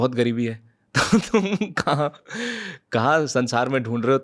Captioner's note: laughs